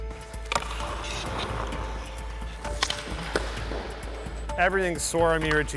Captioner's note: stick slapping